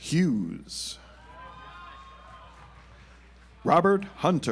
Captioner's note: audience applauds